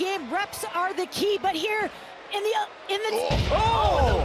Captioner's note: loud thud